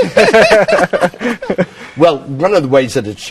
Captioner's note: all laughing